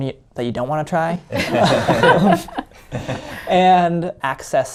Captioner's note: everybody laughing